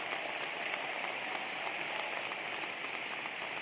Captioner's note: applause